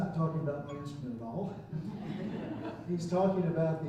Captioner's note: chuckling